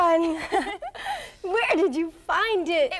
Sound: laughing

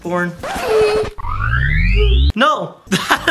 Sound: record scratch

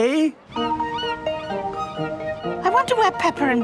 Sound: gulls squawking

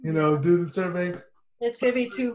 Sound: laughter

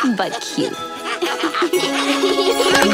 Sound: laughing

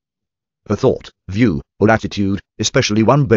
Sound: computerized Voice

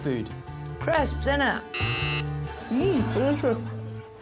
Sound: buzzer rings

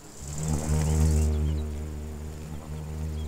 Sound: bee buzzes

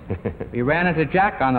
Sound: laughs

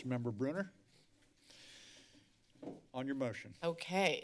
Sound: silence

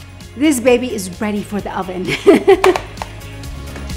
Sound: chuckles

